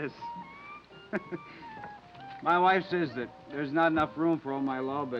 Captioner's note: chuckling